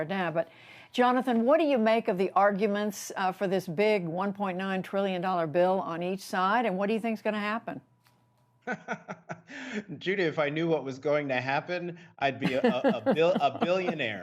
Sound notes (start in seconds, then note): 8.6 laughter